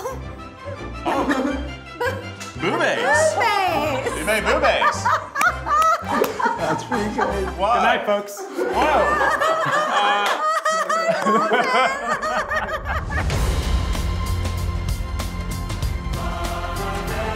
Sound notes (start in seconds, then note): 5.9 group laughs; 8.9 laughs; 13.5 bright inspirational music